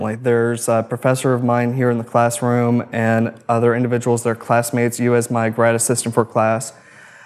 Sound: none

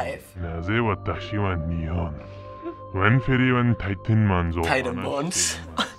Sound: voice-over speaking gibberish; chuckling

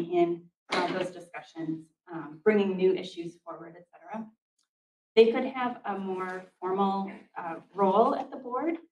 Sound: door closes

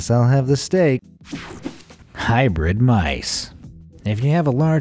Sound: electricity buzzing

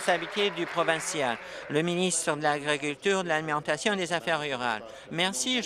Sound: applause

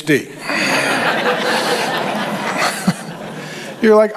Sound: congregation laughs

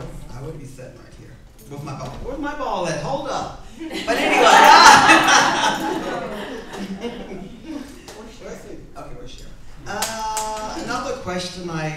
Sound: crowd laughs

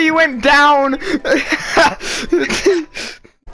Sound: laughter

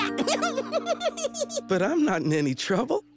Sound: giggles

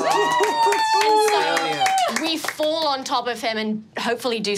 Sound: laughs joyously; cheering and clapping

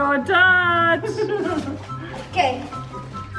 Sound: laughs

